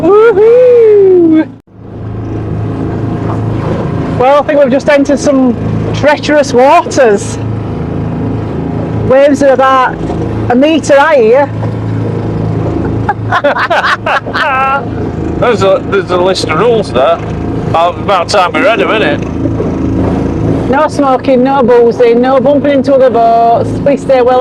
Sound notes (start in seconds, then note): 12.9 laughs